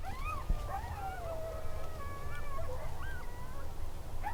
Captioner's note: coyotes howling